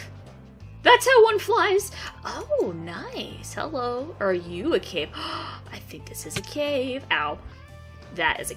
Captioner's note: ohh gasp